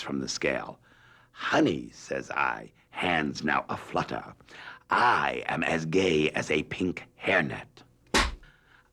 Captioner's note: slate clap